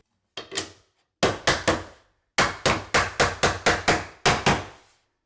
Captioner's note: hammer pounding